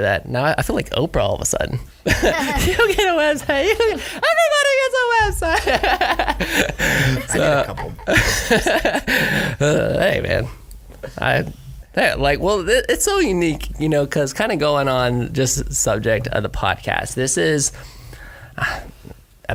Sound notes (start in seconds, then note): 2.1 laughs; 9.3 all laugh